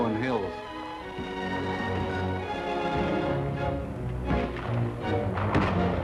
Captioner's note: dramatic music; guns firing